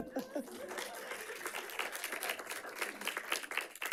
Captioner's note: audience clapping